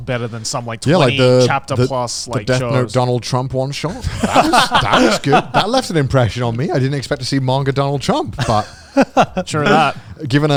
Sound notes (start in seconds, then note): 3.9 everyone laughing